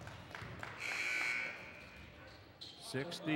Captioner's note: buzzer buzzes